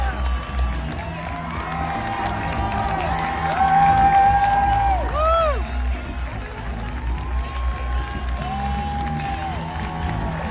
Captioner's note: cheering; applause; applause and cheering